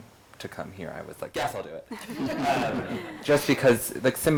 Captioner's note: group laughs